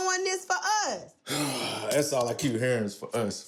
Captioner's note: sigh